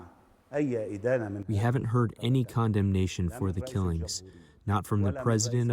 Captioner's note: through translator